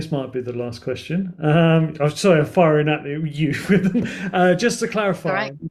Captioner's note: chuckles